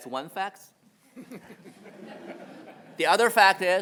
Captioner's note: attendees laughing